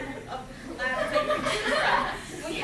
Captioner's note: laughter